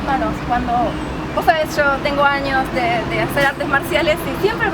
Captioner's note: both laugh